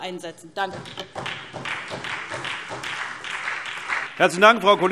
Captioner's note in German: Beifall SPD